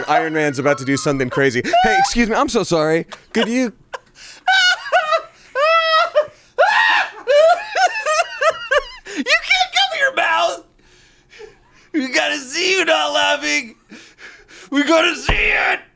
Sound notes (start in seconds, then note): 3.8 laughs